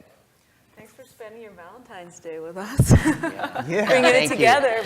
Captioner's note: laugh